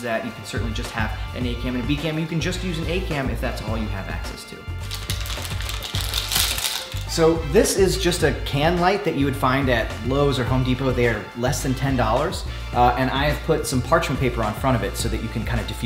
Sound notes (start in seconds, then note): 4.9 paper crinkling